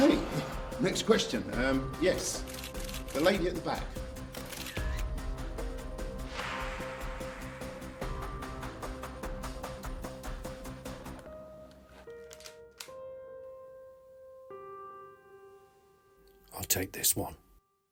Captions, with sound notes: - Okay, next question. Yes, the lady at the back. (dramatic music) (gun clicking) - I'll take this one.